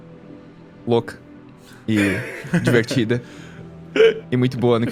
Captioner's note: giggles